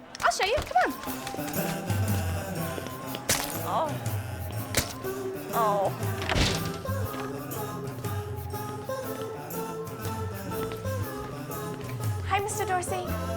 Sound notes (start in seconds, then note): 4.6 groans; 7.4 cheerful music